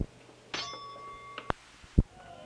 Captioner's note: bell Noise